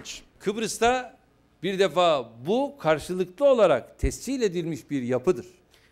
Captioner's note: non-english speech